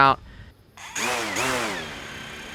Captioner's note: drone taking off